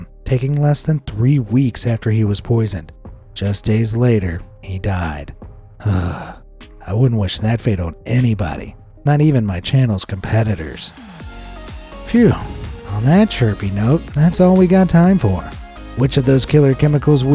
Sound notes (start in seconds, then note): 5.8 sighs; 11.3 upbeat music